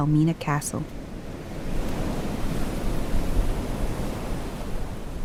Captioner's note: waves crashing